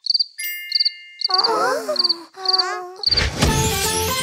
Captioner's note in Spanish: Sonido de grillos